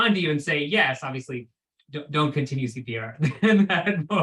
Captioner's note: laughs